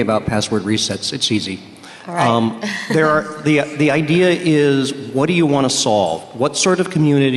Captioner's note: laughter